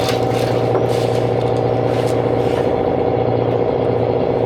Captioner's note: engine revving